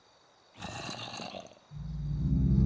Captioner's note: zombie noises in distance